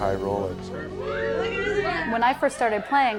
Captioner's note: whistling